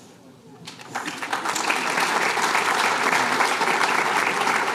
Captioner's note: applause